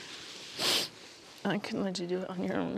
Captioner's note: sniffs